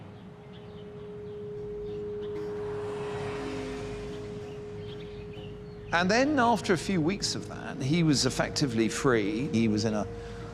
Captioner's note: birds chirping